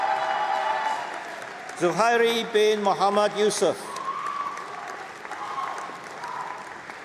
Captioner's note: applause